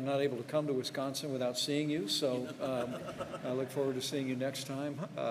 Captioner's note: laughter